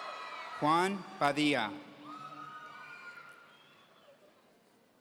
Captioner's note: audience cheering; audience cheering